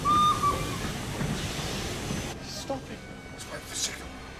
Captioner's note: train whistle sounds, brakes squeal